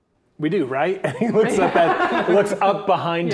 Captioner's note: players laughing